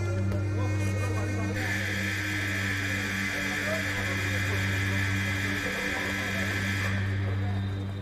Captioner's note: alarm blares